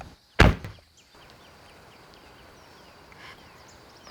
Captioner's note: car door slams